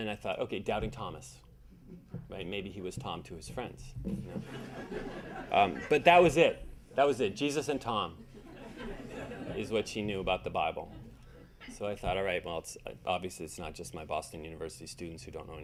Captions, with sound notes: And I thought okay, doubting Thomas. Right maybe he was Tom to his friends, (audience laughing) but that was it, that was it, Jesus and Tom is what she knew about the Bible. So I thought I right well obviously it's not just my Boston University students